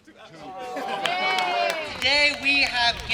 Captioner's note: audience cheering